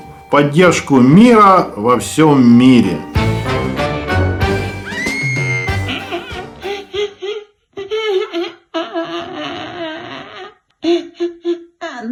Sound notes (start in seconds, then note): 6.5 someone is crying